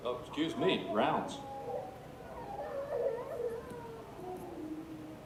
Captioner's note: children crying